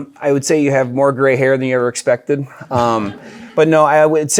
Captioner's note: audience chuckles